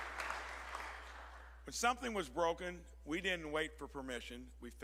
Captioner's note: applause